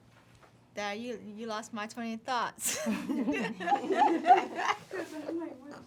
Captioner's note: laughing